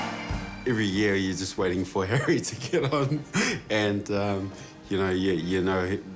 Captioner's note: chuckles